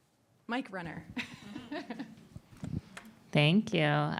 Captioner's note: laughs